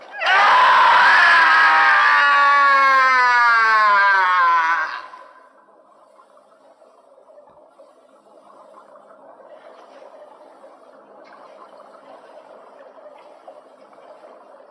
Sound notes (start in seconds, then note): 2.4 screaming